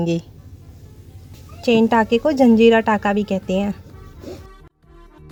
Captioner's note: in Hindi Language